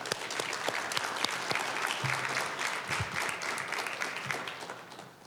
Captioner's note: applause